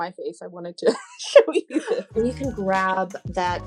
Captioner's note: laughs